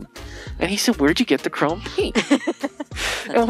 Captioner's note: laughing